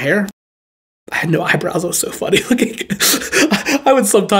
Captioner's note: chuckles